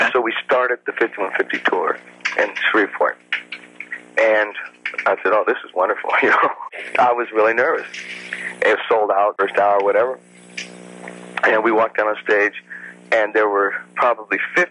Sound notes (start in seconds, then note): 6.0 laughs